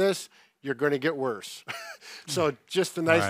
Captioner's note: chuckles